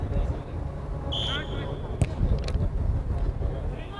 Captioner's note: whistle